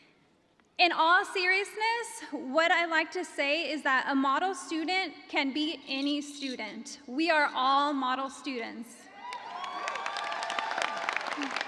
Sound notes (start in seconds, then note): 9.1 cheers and applause